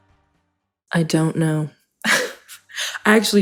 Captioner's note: laughs